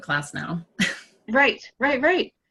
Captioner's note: laughing